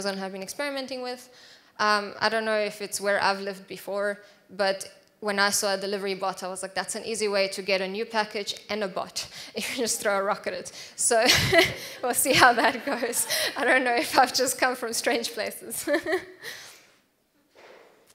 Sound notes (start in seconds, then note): 11.2 laughs; 11.3 audience laughs; 17.4 laughs